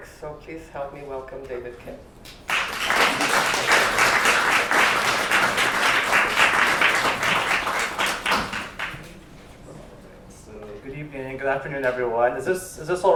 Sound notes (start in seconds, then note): 2.3 applause